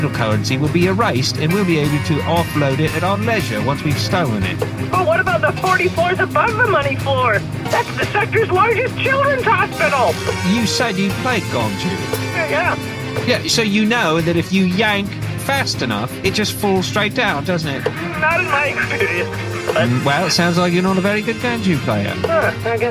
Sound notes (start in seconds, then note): 5.1 over comms